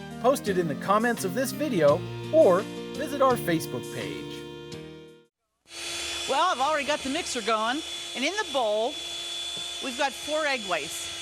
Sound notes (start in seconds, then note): 5.7 mixer whirring